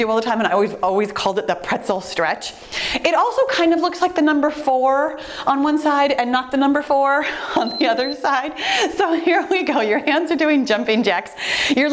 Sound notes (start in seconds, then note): 7.3 giggling; 7.5 timer beeps